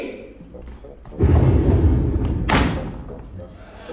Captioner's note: boom; laughter